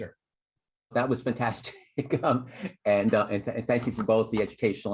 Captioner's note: laughter